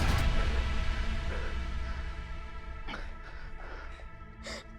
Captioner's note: music fades; both breathing heavily